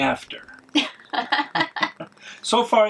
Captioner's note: laughing